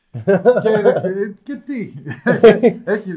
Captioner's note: laughs